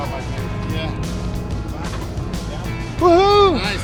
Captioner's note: men murmuring